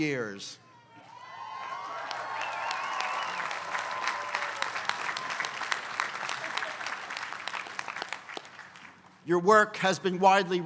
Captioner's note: applause